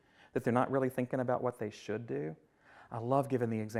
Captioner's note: none